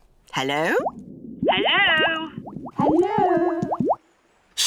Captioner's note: voice echoes